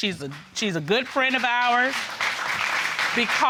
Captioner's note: audience applauding